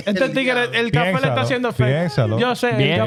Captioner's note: speaking In Foreign Language